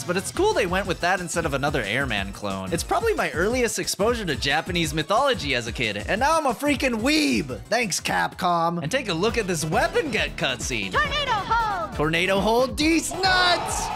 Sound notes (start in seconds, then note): none